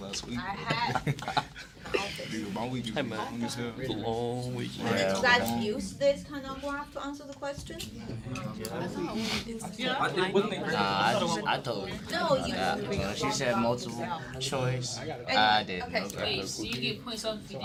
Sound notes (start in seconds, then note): 0.0 students murmur; 8.0 students murmur